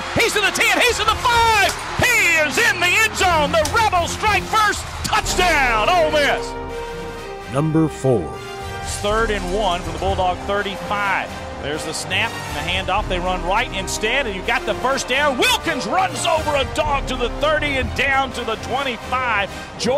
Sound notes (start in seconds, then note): 7.5 voiceover